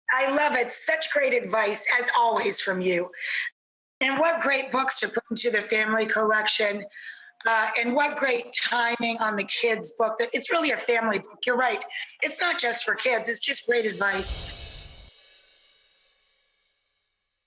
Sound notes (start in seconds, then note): 14.1 whooshing; 14.1 chimes